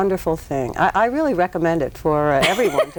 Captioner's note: laughs